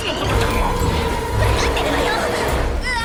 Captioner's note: stammers